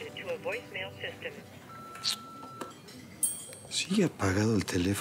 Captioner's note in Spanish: Bip